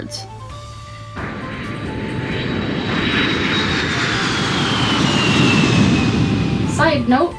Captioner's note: airplane flying noises